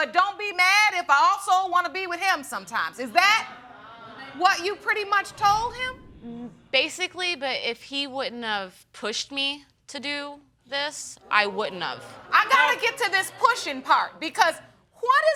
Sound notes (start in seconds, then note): 3.2 audience gasps